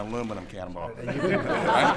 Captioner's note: laughter